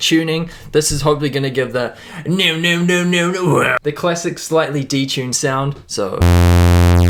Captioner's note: voice imitation